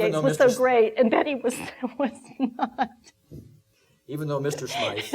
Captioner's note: laughing